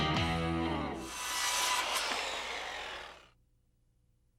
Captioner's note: saw whirring